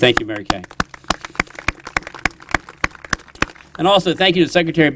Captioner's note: applause